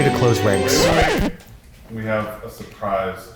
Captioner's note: record scratch